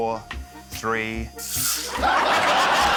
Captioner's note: laughter